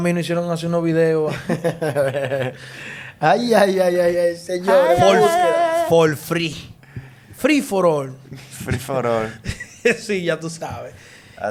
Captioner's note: laughs